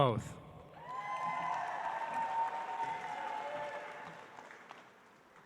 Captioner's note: audience applauds